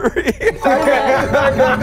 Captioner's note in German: Klingeln